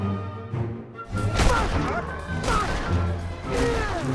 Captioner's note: grunting